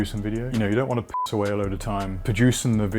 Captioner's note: beep